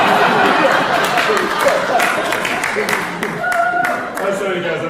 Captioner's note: laughing; applause